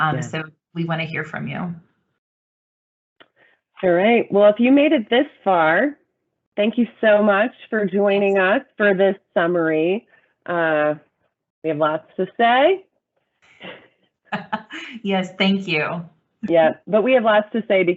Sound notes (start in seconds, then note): 14.3 laughter